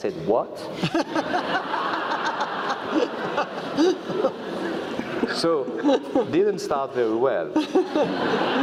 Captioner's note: laugh